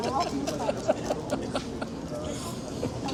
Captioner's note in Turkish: kahkaha